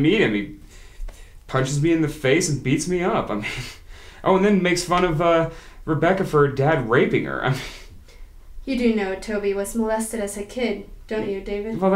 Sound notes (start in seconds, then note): none